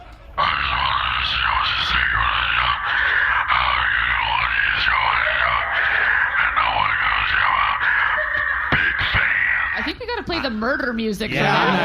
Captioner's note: alien murmuring